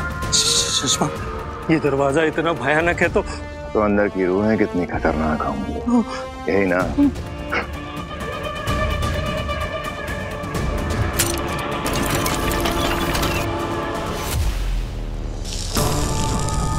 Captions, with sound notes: Shashmaag! This door looks so dangerous. Imagine how deadly the souls inside are. - Yes! - That is what you mean, right? [suspenseful music plays] [metal clanks] [tense music plays]